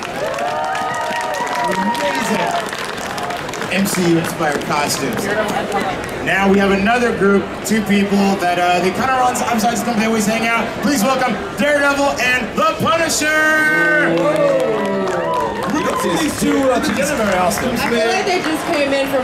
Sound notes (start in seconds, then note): 0.0 audience cheering; 9.4 audience chattering drowns out male announcer; 13.7 audience clapping